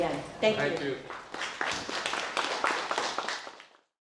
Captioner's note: audience applauds